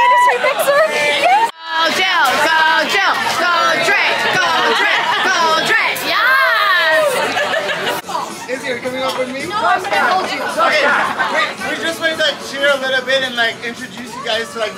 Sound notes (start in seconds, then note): 6.9 overlapping chatter